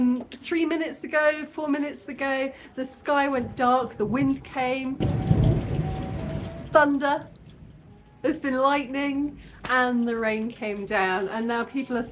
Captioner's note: thunder